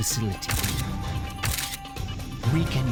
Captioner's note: camera shutter clicking